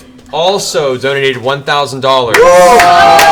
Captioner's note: all cheer